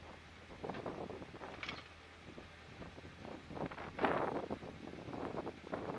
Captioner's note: bang noise as the gate on the left reaches it 'closed' point